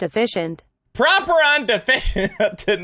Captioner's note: laughs XD